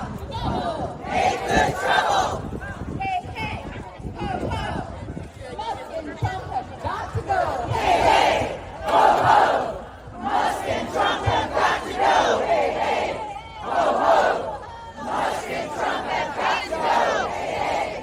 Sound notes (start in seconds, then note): 6.8 chanting